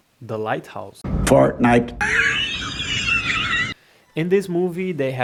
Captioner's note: fortnite! laughs